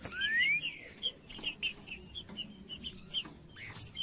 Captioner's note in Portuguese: trinca ferro cantando